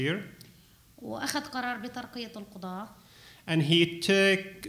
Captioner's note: speaking arabic